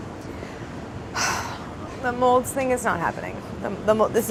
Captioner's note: sighs